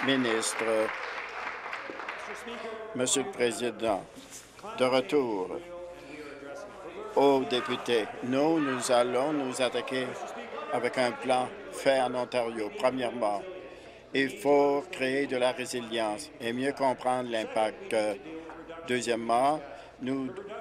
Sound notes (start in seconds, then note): 0.0 applause